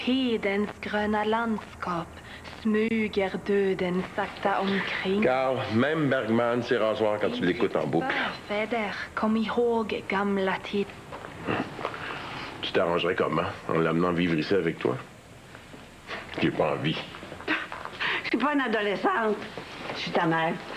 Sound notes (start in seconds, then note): 0.3 En allemand; 10.8 En allemand